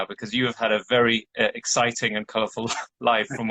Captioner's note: chuckles